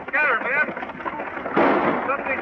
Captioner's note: gunfire